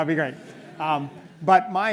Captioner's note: audience laughs